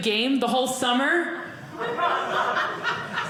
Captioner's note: audience laughing